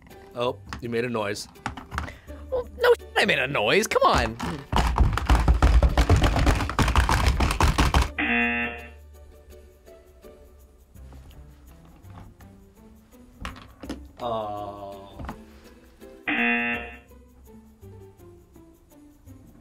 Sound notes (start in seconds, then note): 3.9 hippos clicking; 8.2 buzzer rings; 13.4 ball clicks; 16.3 buzzer rings